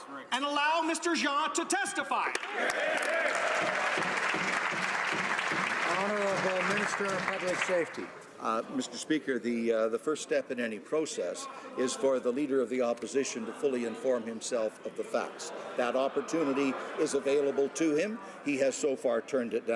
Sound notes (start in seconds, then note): 5.6 some Applause